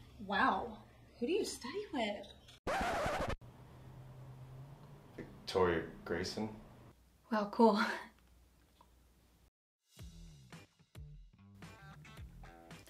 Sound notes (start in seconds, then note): 2.6 record scratches; 10.0 soft upbeat music